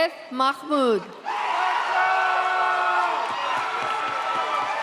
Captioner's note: audience cheers